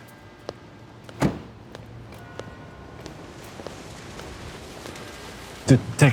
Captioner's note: car door slamming shut